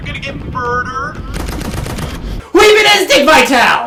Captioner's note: gunshots fire